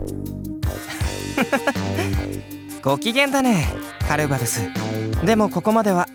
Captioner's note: chuckle